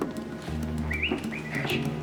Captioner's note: knocking